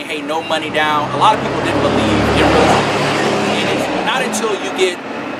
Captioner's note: loud truck noise